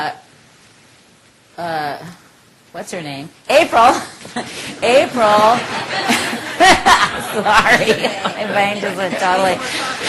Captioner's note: laughter